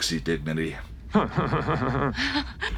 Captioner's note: weird Picard chuckle; minor laugh